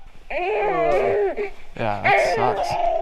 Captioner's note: baby crying